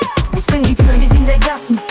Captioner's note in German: Record scratch